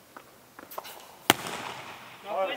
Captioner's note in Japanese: ボールをキャッチする音; がボールを投げる時のステップ音